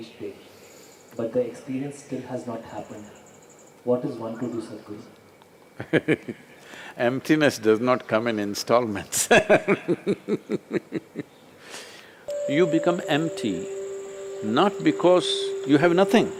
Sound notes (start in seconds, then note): 7.4 laughs; 9.1 laughter; 10.3 laughs; 11.9 laughter/Applause